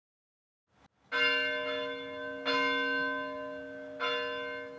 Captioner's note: bell ringing